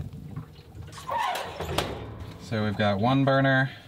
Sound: oven creaking

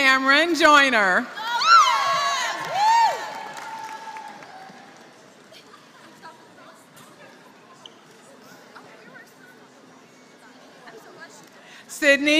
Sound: applause

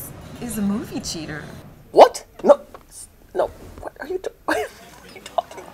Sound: sputters

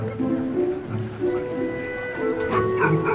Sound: laughter

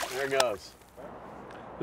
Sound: fish splashing

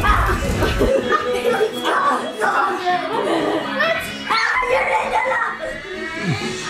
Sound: dramatic music; children shouting indistinctly

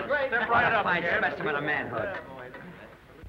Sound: crowd chatting

